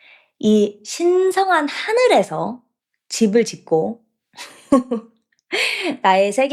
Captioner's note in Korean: 웃음